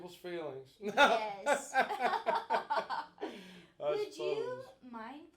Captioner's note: both laughing